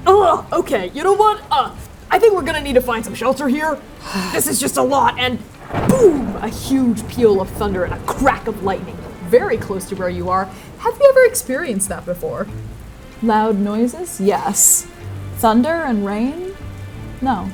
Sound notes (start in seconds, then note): 4.0 peeved sigh; 6.1 thunder booming